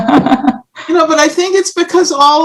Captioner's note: laughs